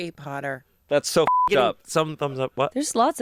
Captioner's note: beep